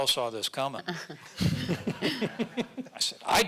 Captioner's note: audience laughing